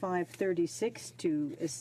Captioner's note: speaking French